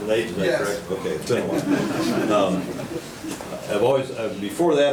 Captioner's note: audience laughing